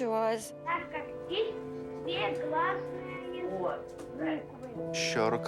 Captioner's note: children speaking Russian